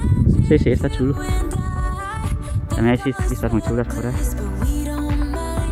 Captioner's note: Spanish